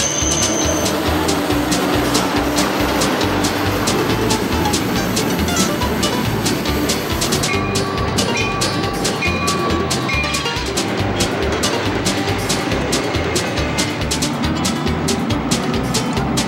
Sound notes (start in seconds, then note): 0.8 brakes squealing; 6.5 train chugging; 11.8 bell tolling